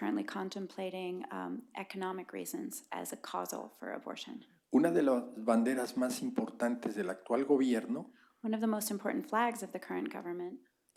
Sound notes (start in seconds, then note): 6.9 spanish